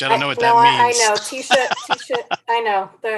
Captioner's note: laughing